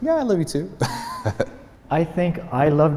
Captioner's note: laughs